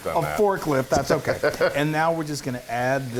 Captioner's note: laugh